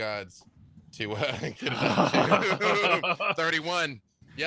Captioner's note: laughs